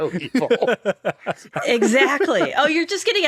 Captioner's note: all laughing